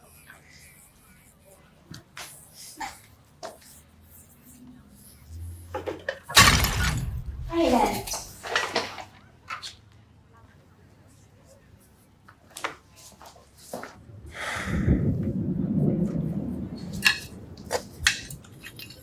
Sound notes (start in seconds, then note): 6.6 flowerpot clattering